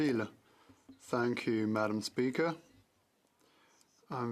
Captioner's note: speaking French